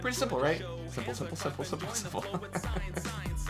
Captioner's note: laughs